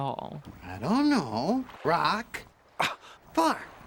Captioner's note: none